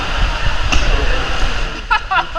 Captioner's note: water blast